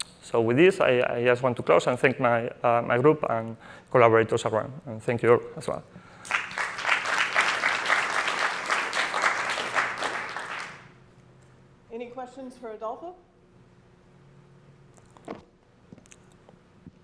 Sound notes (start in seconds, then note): 6.2 applause